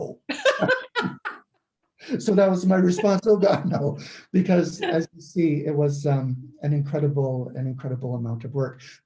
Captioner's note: laugh